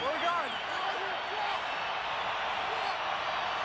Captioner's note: crowd cheering